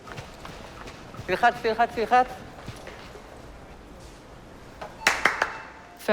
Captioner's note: footsteps pattering; speaks foreign language; claps